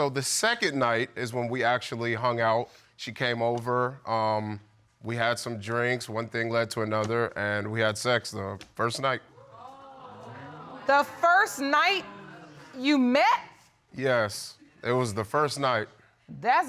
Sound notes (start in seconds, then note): 9.3 audience exclaiming